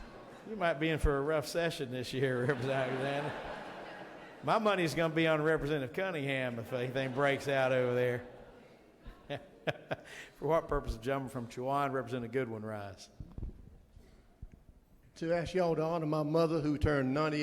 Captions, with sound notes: [audience laughing] - You might be in for a rough session this year, Representative Alexander. [audience laughing] My money is gonna be on representative Cunningham if anything breaks out over there. [laughs] For what purpose of gentleman from Chowan Representative, Goodwin rise?